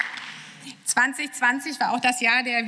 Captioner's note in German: Beifall